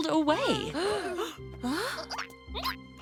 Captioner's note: gasping; caterpillar noises